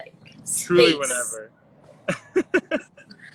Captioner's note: laughs